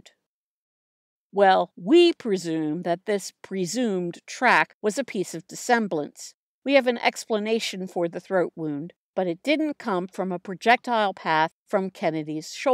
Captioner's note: sarcastic tone